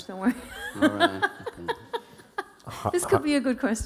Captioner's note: laughing